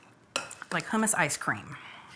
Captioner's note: scoop scraping